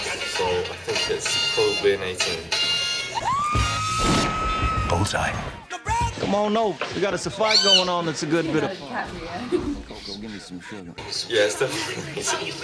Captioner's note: screams; laughs